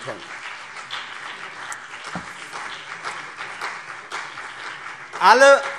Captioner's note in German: Beifall CDU und BÜNDNIS 90/DIE GRÜNEN